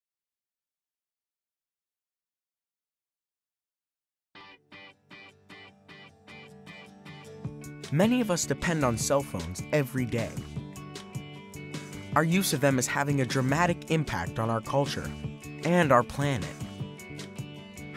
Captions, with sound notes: (lively music) - [Voiceover] Many of us depend on cell phones every day. Our use of them is having a dramatic impact on our culture and our planet.